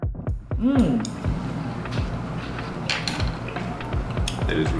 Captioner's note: sounds of eating and chopstick clacking